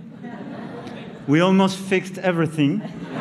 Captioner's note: laughter